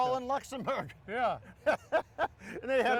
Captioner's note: laughing